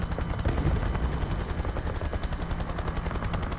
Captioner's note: guns firing